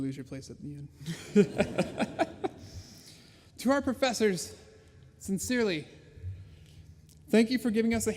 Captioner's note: laughs